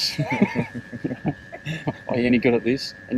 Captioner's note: laughing